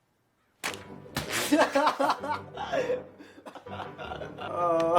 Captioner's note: Griff laughing